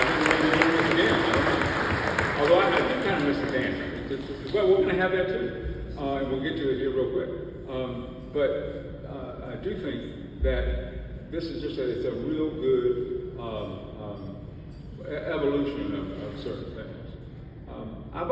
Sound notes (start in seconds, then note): 2.8 audience claps